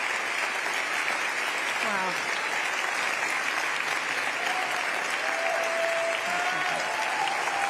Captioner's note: applause